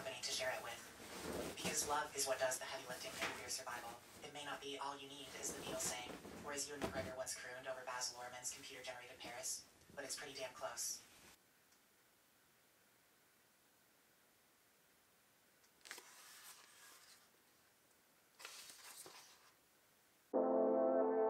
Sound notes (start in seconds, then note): 11.1 page turning; 11.1 silence